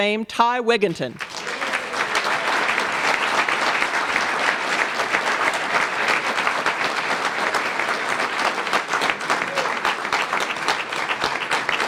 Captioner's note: applause